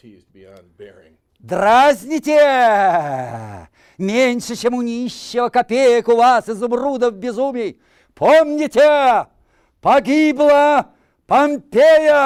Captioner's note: reciting poem in Russian